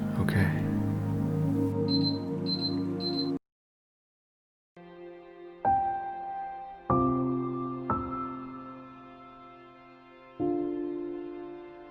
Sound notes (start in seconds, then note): 1.8 beeping